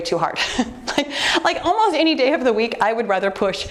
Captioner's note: chuckles